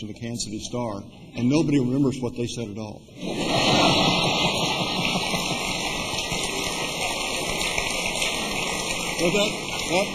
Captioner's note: laughter